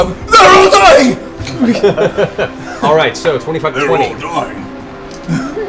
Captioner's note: laughs